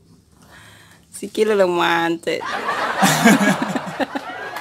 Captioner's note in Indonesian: tertawa bercanda